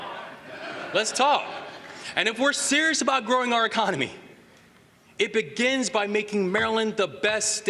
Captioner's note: laughter